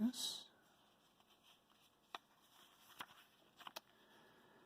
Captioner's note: paper rustling